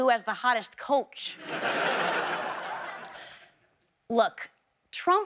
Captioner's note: audience laughs